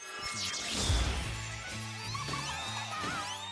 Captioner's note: zap